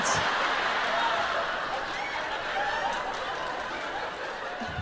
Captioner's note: audience laughs